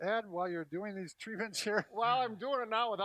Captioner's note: laughs